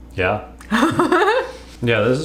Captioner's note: laughing